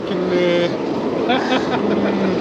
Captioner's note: laughter